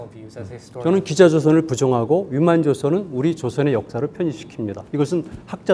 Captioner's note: speaking in Korean